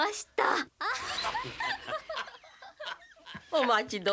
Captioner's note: Laughter from Ōhara and Kurita